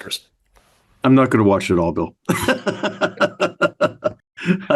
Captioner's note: laughs